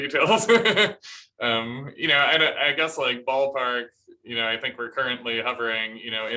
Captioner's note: laughter